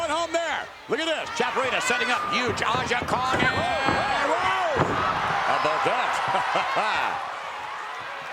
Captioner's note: laugh